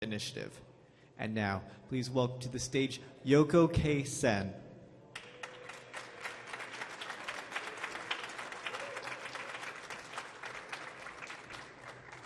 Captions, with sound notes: - Initiative. And now please welcome to the stage Yoko K. Sen. (audience applauding)